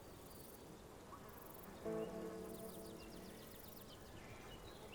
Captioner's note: birds chirping